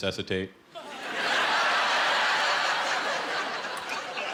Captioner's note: laughter